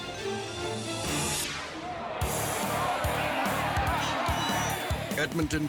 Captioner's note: air whooshes; audience chatters